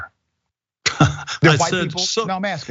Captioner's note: laugh